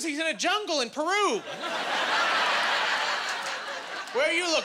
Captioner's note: laughing